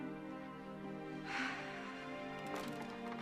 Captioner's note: sighs